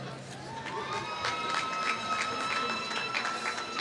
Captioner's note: applause